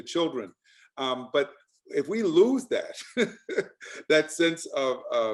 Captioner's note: laughs